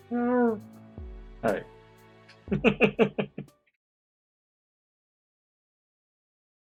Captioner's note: chuckles